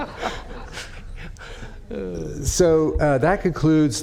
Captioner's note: laughter